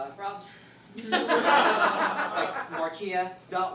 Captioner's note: laughter